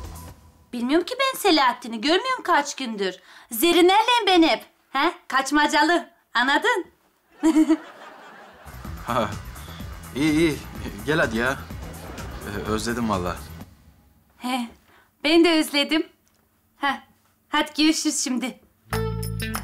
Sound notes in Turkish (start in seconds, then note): 7.3 Gülme efekti; 11.2 Fonda müzik